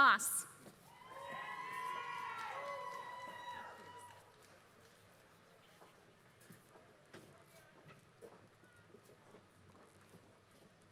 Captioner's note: applause